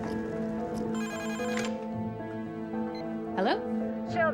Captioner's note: phone ringing